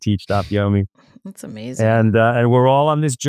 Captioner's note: laughs